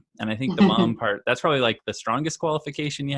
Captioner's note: laughing